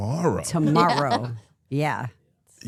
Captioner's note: laughs